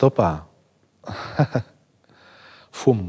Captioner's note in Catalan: ríe